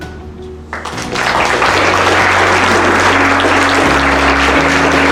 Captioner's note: applause